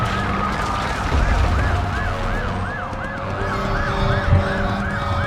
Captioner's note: police sirens, guns firing